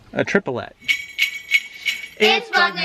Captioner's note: bells ringing